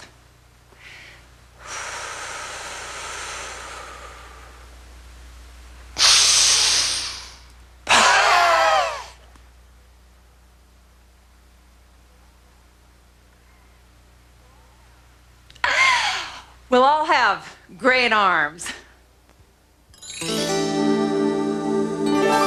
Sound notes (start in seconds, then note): 0.7 breathing; 5.3 breathing; 7.8 screaming; 9.3 breathing; 15.6 sigh